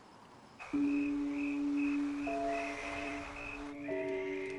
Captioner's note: crickets chirping